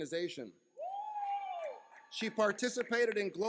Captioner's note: cheering